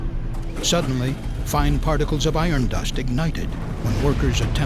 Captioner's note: sound of explosion